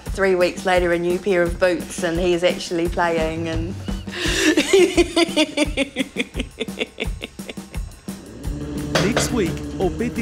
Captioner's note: laughter